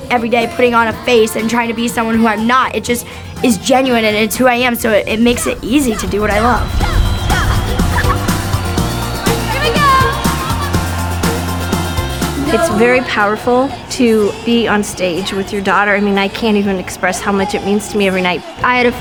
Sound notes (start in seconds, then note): 7.8 laughing; 10.7 crowd cheering